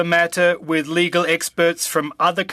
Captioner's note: speaking french